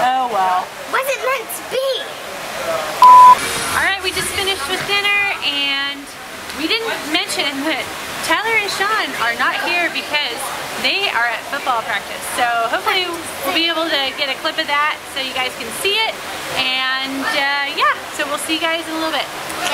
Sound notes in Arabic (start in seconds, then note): 3.0 زمارة